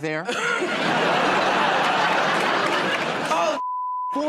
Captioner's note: laughter and applause